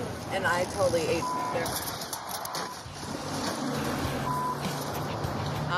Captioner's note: horn honks, tires screech